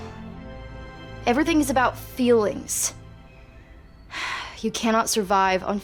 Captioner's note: sighs